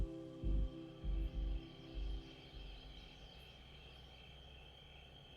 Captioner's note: crickets chirping